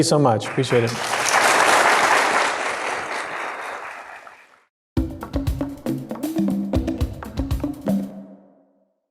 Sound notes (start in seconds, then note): 1.9 applause; 5.0 percussion music